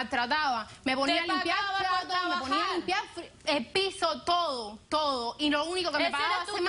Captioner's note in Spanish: Hablan al unísono